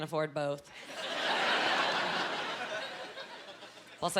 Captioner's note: laughing